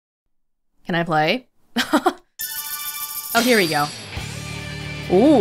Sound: chuckles

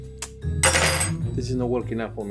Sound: cutlery falling on table

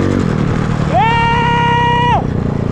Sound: yells

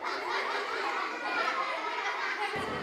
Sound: laughter

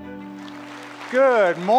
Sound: applause

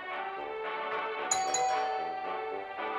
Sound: doorbell rings

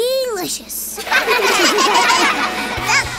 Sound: laughing

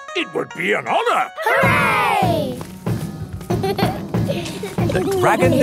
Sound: laughter; drumming

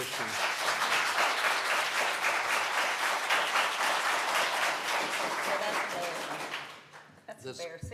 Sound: applause

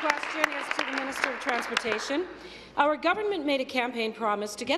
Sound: applause; cheers

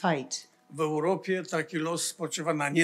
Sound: foreign language

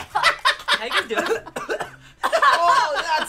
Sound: laughs; coughs

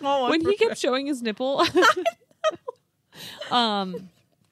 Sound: laughs; laughs

